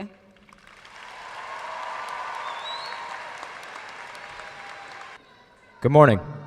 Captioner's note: audience cheering and applauding